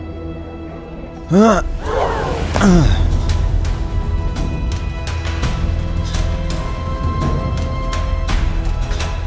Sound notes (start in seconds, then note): 1.3 grunts; 3.9 dramatic music